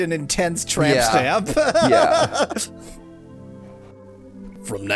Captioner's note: laughs